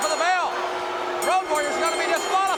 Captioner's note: bell ringing